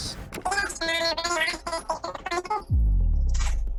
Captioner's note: high-pitched babbling